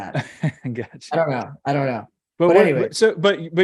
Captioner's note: chuckling